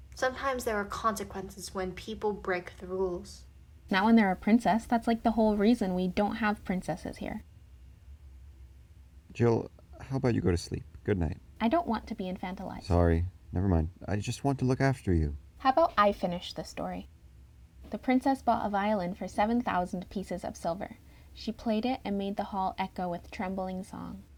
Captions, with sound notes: NIAMH Sometimes there are consequences when people break the rules. CHILD Not when they're a princess. That's like the whole reason we don't have princesses here. [awkward silence] BOY Jill, how about you go to sleep. Goodnight. CHILD I don't want to be infantilized. BOY Sorry. Never mind. I just want to look after you. CHILD How about I finish the story. The princess bought a violin for seven thousand pieces of silver. She played it and made the hall echo with trembling song.